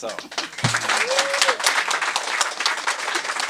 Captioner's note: applause